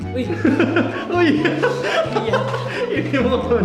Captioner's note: laughing